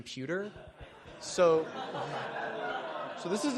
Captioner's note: laughter